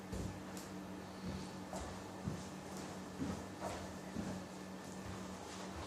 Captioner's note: none